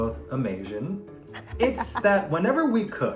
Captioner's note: laughing